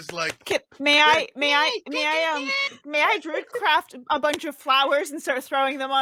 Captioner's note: clapping